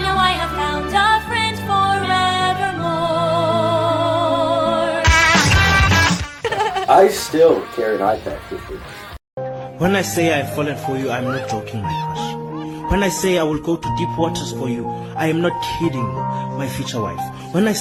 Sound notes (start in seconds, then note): 6.4 laugh